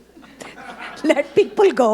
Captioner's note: audience laughing